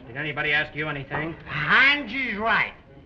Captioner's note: slurring